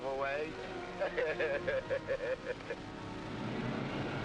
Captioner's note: both chuckling